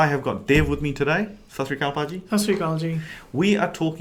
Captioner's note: speaking foreign language